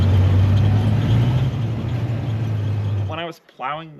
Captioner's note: engine rumbling